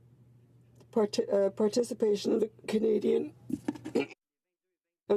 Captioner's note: speaking in French